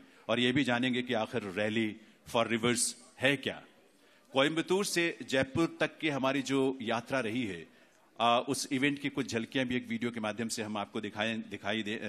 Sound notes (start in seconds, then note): 3.8 speaks in Hindi – not transcribed